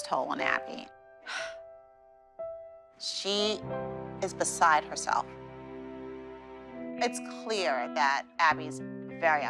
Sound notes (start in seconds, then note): 1.3 sighs